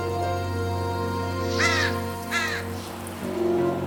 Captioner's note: crow cawing